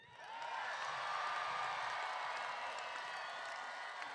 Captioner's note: crowd cheering